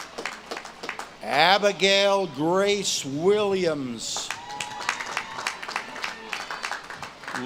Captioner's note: audience claps and cheers